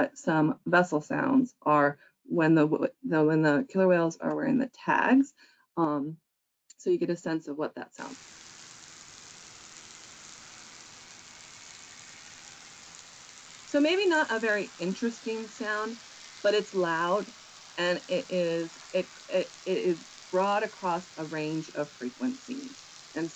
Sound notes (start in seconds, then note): 9.9 ocean buzzing